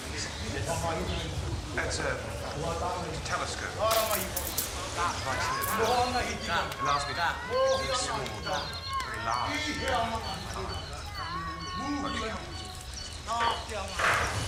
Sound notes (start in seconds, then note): 5.8 people chattering